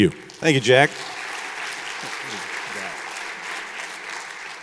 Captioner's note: audience applauding